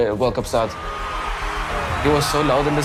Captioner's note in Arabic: تشجيع الجمهور